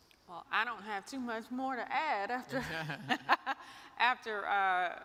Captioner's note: chuckles